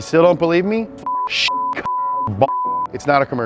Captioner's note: beep